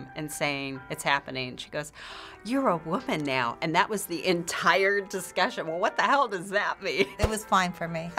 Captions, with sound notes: and saying, "It's happening." And she goes, "(gasps) You're a woman now." And that was the entire discussion. What the hell does that mean? It was fine for me.